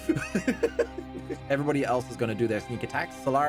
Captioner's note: laughing